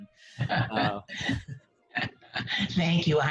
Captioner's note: laughs